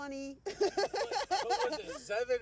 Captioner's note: laughing